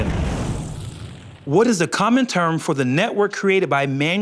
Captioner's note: none